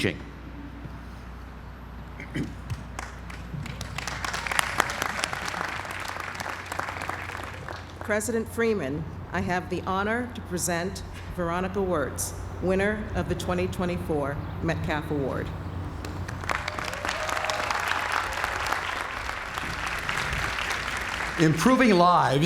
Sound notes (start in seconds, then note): 2.7 applause; 16.0 applause